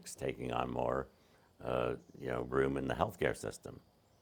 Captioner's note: none